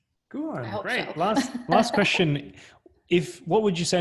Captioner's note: laughs